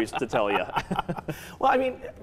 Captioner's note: laughing